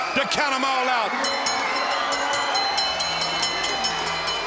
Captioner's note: bell dinging